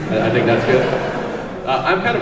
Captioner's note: audience laughs